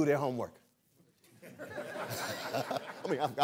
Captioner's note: laughter